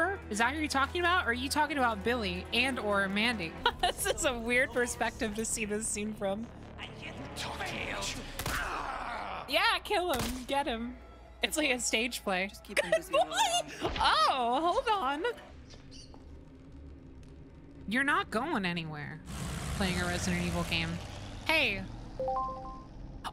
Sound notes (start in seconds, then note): 8.3 gunshot; 19.2 background Revving